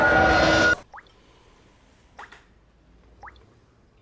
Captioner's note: water drips